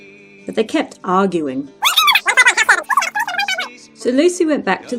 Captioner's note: high speed arguing